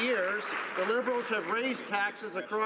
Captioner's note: some Applause